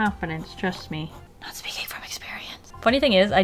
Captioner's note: whispers: 'not speaking from experience